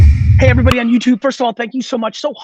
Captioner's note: logo thuds